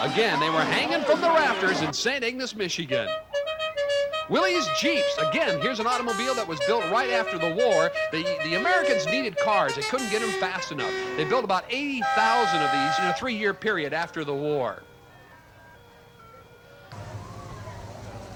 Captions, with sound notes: Again, they were hanging from the rafters in Saint Ignace, Michigan. (car honks) Willy's Jeeps, again. Here is an automobile that was built right after the war. The Americans needed cars, they couldn't get them fast enough. They built about 80,000 of these in a three year period after the war.